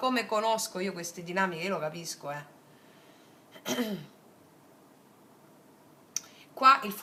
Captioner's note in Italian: schiarire la voce